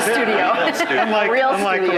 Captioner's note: laughing